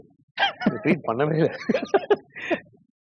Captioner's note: both laughing